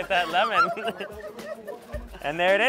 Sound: laughs

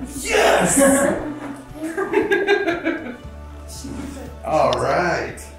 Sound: everyone giggles

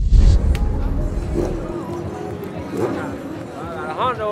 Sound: crowd chatting

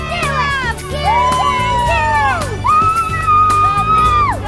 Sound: cheering

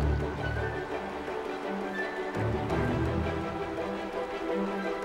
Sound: waves crashing

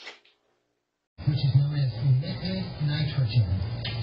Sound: on TV

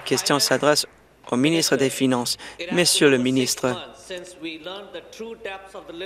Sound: applause

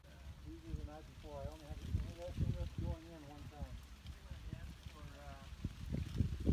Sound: indistinct conversation below; rustling of leaves in the wind

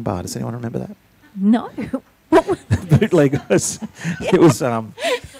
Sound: laughing; laughs

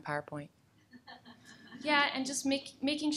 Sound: laughing

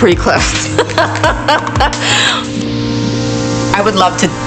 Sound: Robin laughing

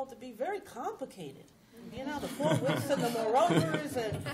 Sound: laughter

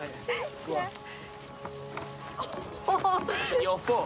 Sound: laughs

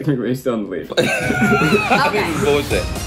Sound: laughing

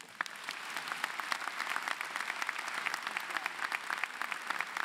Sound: applause

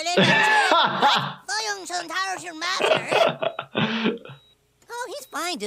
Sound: Eric speaking Vietnamese; laughing; Eric speaking Vietnamese

